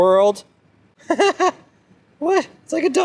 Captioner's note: laughs